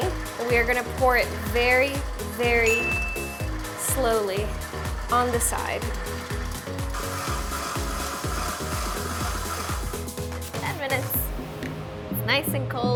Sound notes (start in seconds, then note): 2.6 bell dings; 7.1 mixer whirring